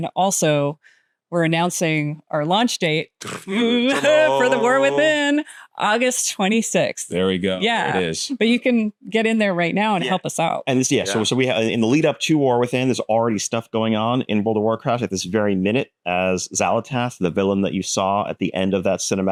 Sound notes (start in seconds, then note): 3.2 blows raspberry; 3.2 vocalizing; 3.3 laughs